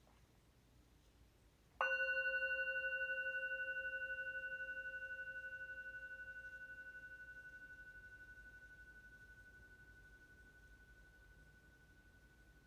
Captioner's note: meditation bell rings